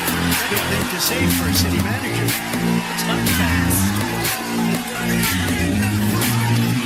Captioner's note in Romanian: Aplauze